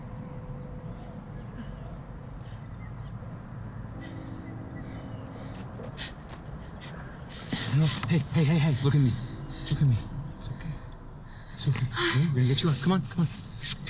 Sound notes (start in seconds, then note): 1.2 rapid breathing; 5.4 gravel footsteps